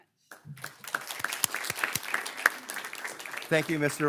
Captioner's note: everyone claps